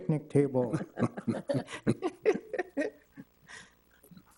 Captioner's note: all laughing